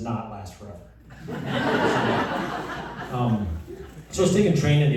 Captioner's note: laughter